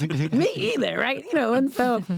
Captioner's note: laughter